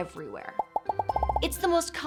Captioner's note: screenshots popping